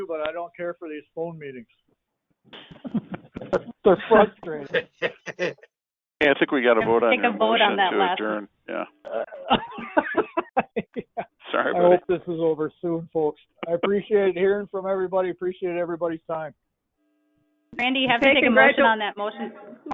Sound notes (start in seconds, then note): 2.6 crowd laughs; 9.1 laughter